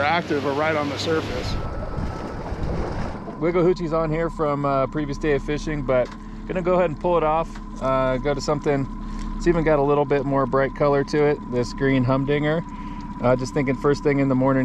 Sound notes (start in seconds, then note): 2.5 boat engine running